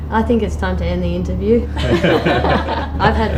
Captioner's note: band laughs